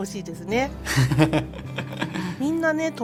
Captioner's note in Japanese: 羽生結弦の笑い声